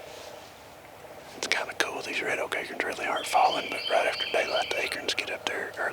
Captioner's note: whispering